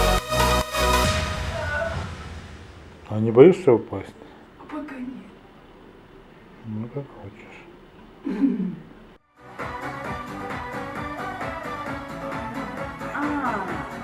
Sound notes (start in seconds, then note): 8.2 laugh